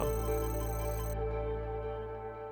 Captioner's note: computer calculating sound effect